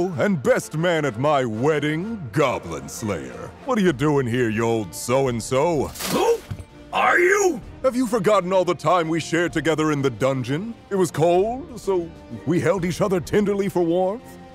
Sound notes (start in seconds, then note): 5.9 armor clinks; 8.2 upbeat triumphant music